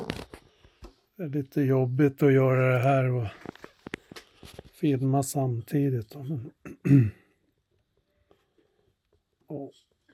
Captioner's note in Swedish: harklar sig